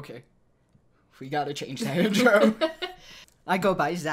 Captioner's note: laughs